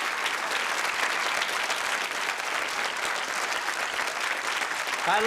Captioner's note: applause